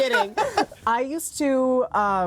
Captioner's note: laughs